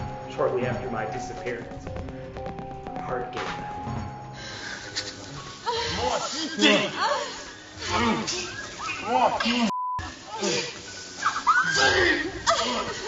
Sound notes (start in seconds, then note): 7.8 grunting